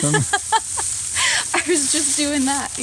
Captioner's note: laughs